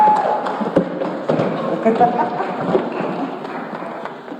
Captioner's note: audience clapping; laughs; audience clapping